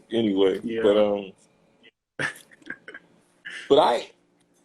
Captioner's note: laughs